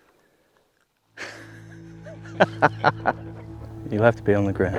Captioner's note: laughter